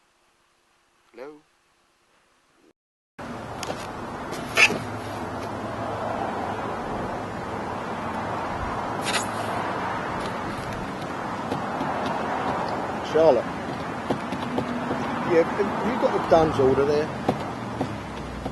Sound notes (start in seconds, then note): 6.1 highway noise; 10.2 fingers drumming on boxes